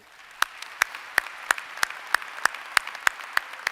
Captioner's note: applause